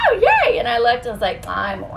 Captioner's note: laughs